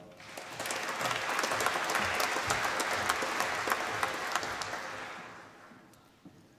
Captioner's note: applause